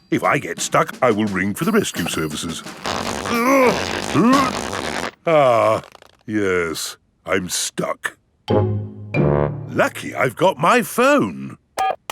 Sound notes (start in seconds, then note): 3.2 grunting